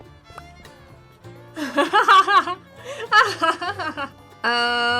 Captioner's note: laughing